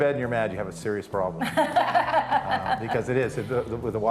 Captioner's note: laughing